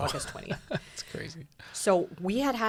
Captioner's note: laughs